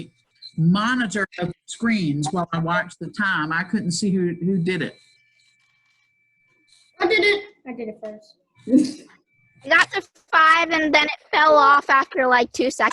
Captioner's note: excited Conversation